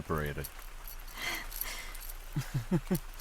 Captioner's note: winces; amused chuckle